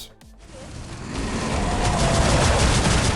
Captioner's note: gunshots